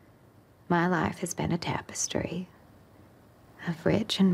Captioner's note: none